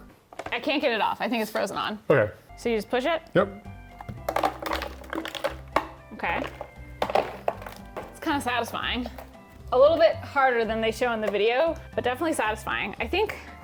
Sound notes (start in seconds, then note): 4.0 ice clinking